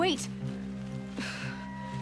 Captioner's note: sigh